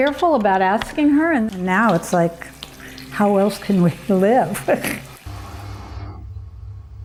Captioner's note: laughing